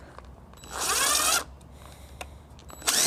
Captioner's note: buzzing